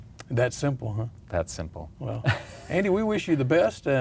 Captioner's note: laughs